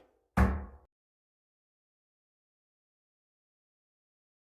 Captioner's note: gavel bangs